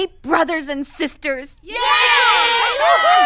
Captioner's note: cheering